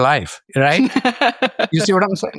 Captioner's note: laughs